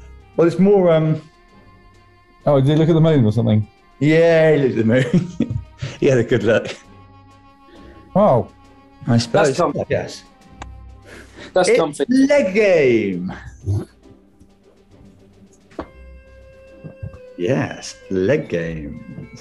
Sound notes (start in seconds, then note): 4.6 laughing